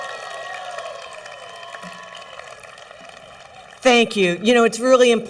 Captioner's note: cheering